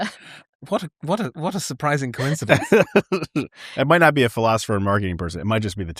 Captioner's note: laughter; laughter